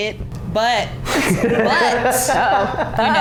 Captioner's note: laughing